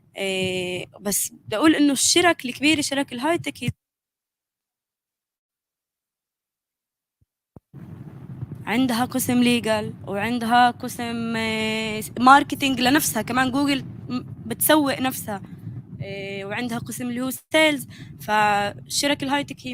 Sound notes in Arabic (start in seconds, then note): 2.8 لغة أجنبية; 9.2 لغة أجنبية; 11.3 لغة أجنبية; 17.2 لغة أجنبية